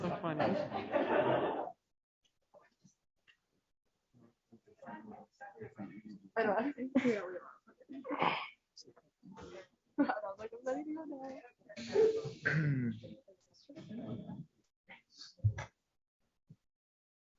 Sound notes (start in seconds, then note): 0.0 laughter; 4.7 background chatter